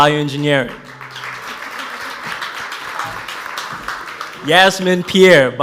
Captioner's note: audience applauds